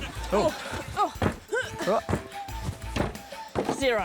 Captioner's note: grunts